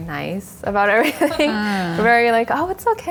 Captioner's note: laugh